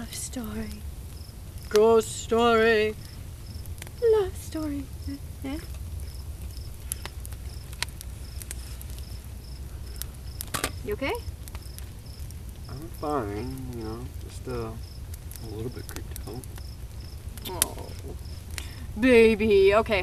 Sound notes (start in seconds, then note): 7.8 fire crackling; 7.8 insects buzzing